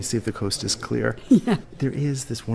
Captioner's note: laughs